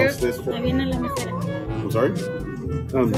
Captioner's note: woman speaks in foreign language